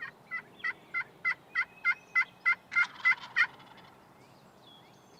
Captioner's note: multiple turkey calls